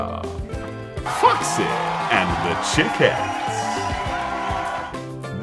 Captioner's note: audience cheering